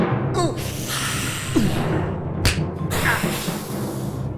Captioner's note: Vampire hisses and grunts